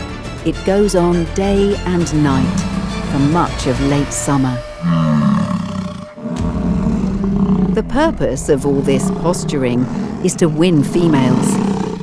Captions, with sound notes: It goes on day and night for much of late summer. [bison roar] The purpose of all this posturing is to win females,